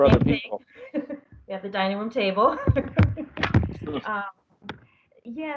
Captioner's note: laughter